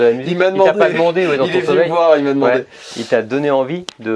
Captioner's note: laughs